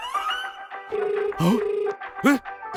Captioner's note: phone rings